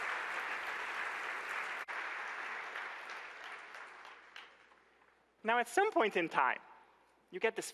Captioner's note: applause